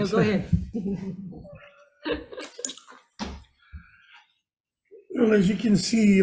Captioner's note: laughs